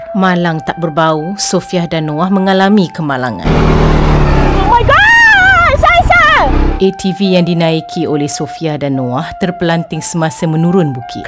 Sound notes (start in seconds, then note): 4.6 scream